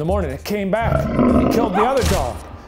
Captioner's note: animal growling